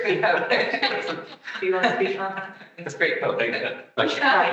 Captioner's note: attendees laughing